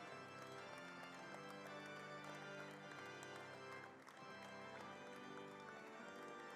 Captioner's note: applauding; organ plays